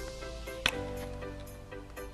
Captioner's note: click